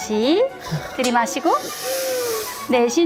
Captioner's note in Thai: สั่งด้วยน้ำเสียงที่อ่อนโยน